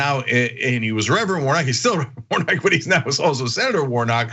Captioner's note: laugh